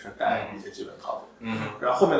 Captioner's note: nonverbal grunt as interjection